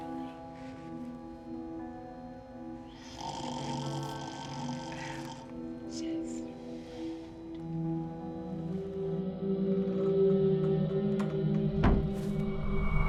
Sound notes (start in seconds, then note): 0.9 loud snoring; 11.2 door closes